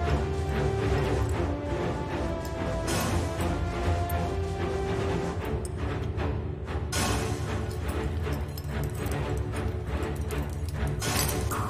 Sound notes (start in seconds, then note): 0.0 military mission music; 7.0 metallic clinking